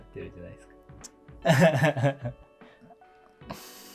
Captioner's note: laughing